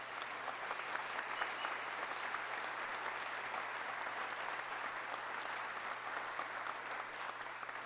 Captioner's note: applause